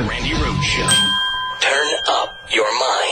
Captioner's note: bell rings